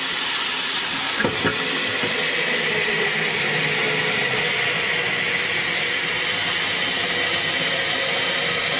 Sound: water is turned off

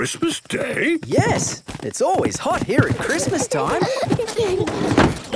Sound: kids giggling

